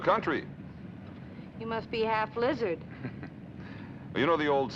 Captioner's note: chuckles